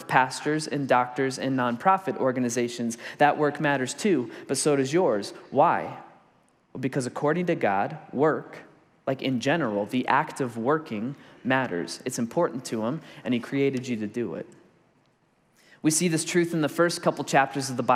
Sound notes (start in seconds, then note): none